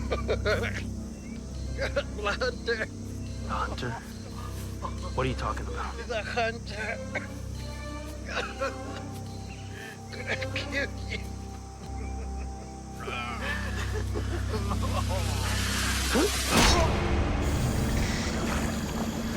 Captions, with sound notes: Hunter! Hunter? What are you talking about? The hunter! (Choking)